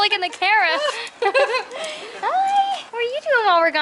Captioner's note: laughter